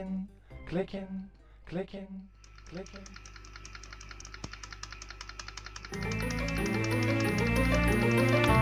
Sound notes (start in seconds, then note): 2.4 clicking sounds intensify